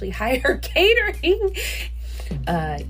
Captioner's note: laughs